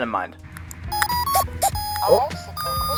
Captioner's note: controller beeps